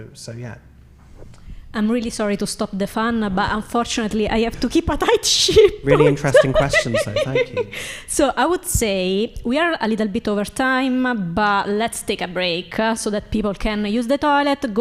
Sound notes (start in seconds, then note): 5.5 laughing